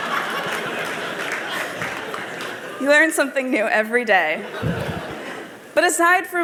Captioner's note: laughter